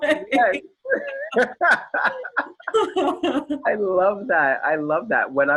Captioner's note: laughs